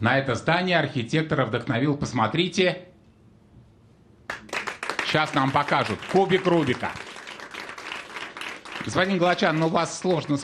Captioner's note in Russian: аплодисменты